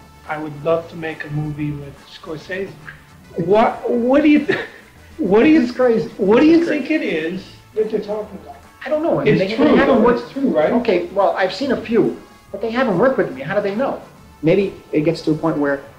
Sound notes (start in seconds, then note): 6.1 chuckling